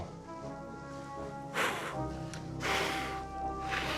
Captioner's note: puffs